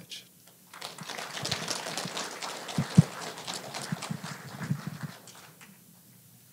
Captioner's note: applause